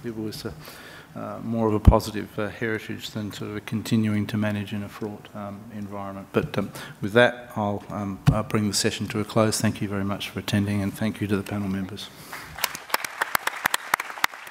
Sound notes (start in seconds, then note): 12.3 applause